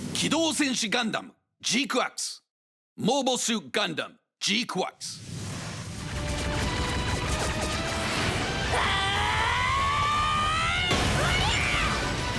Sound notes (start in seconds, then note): 8.6 Machu’s screaming